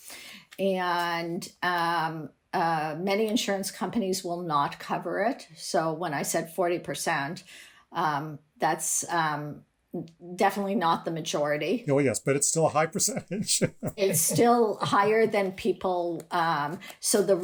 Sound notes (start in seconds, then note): 12.9 laughter